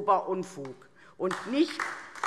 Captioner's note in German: Beifall DIE LINKE